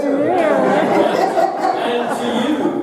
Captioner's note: audience laughing